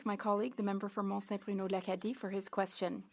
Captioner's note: speaking French